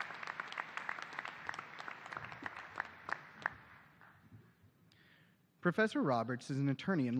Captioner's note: applause